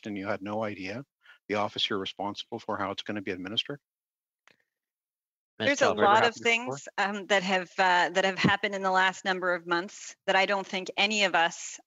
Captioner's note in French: voix de l'interprète